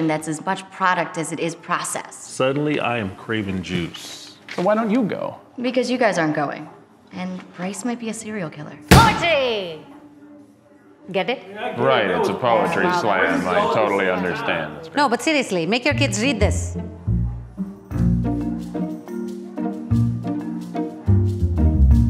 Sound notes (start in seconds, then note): 8.9 book slams; 18.0 upbeat music